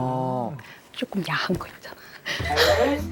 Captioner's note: whispers